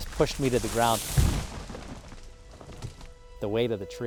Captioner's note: tree crashing